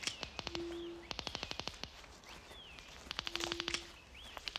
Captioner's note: detectors clicking